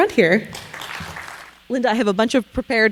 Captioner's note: audience applauding